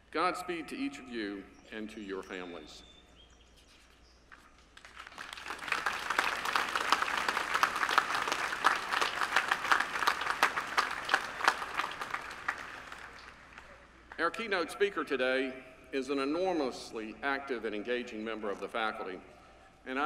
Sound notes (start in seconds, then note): 4.7 applause